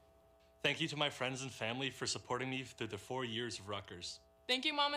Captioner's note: speaking in native language